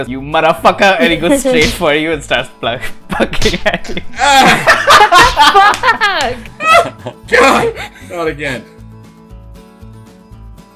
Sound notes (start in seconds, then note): 8.1 laughter